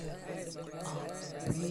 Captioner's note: crowd agreeing